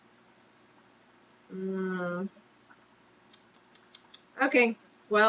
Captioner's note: clicks tongue